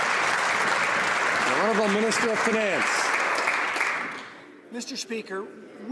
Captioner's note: some Applause